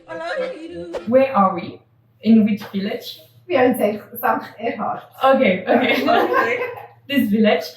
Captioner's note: laughts